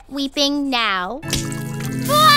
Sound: bawls

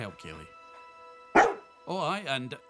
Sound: bark

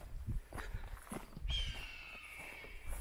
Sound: footsteps on gravel; eagle screech

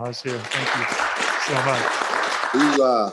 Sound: audience applause

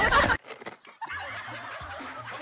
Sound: Crunch

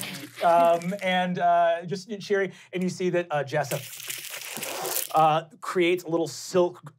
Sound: skittering

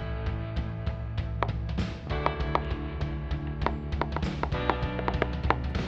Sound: tapping pencil rhythmically; drumming with pencils

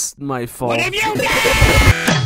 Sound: distorted noises; intro music

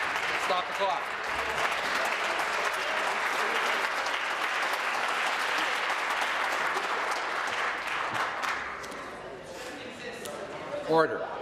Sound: some Applause

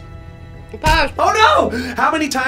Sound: laughs; stamp thuds

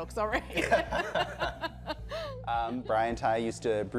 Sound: both laughing

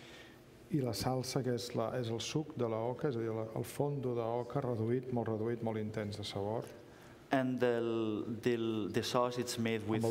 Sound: speaking catalan

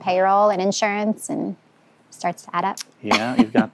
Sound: laughs

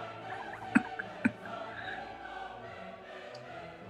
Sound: chuckling

